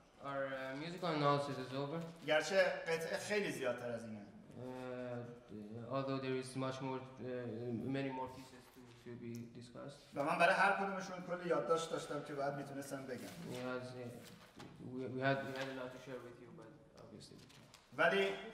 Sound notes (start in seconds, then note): 0.0 speaking in farsi; 2.0 speaking in farsi; 10.0 speaking in farsi